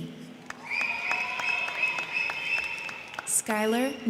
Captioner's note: crowd cheering; crowd clapping